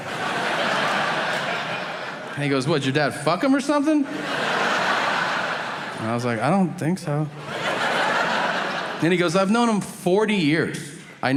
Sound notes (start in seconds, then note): 0.0 audience laughing; 7.1 audience laughing